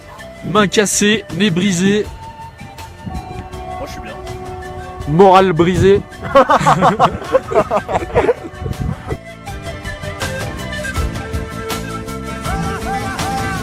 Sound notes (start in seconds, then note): 6.2 laughs